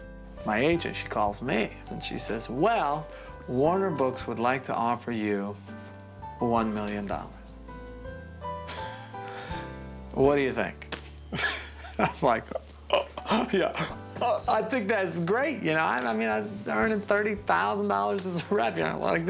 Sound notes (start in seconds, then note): 9.2 softly gasps; 11.4 softly chuckles; 12.9 feigning panting